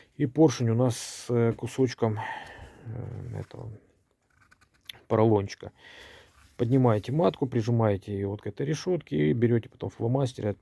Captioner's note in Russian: вздыхает